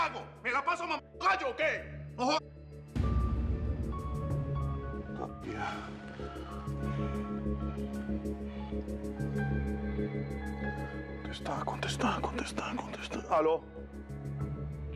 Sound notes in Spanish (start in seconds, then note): 5.0 habla entre dientes